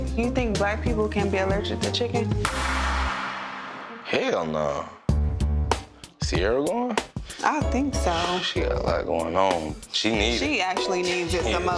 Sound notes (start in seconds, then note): 2.5 dramatic clunk; 5.2 tense hip-hop music